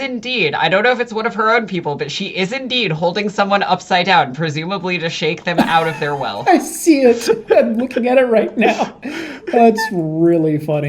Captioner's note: wheeze laugh; squeal laughing